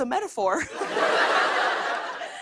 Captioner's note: laughter